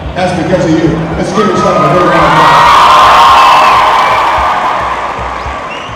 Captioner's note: cheers and applause